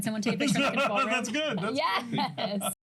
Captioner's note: laughs